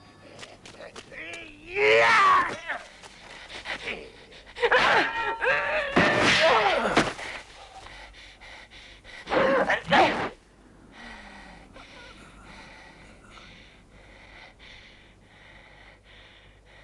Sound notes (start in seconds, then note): 4.8 swords clanging; 7.2 Hundra panting